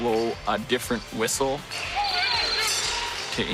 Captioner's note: whistle blowing